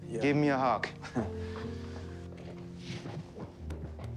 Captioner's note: laughs